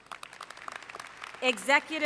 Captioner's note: applause